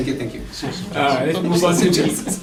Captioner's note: laughter